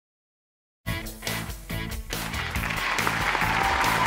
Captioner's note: applause